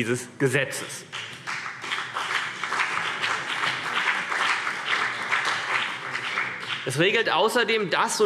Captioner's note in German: Beifall CDU und BÜNDNIS 90/DIE GRÜNEN